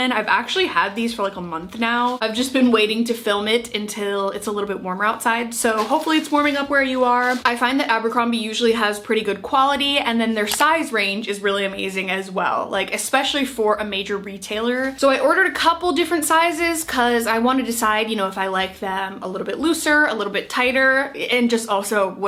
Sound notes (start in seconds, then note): 10.4 mouse clicking